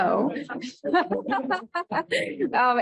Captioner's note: laughter